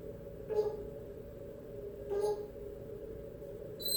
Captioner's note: boop.....boop